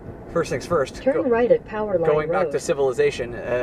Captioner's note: voiceover